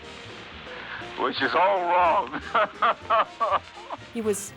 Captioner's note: continues laughing